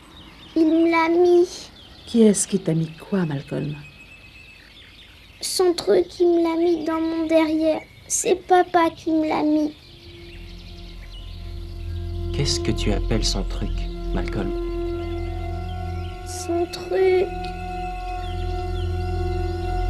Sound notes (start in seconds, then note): none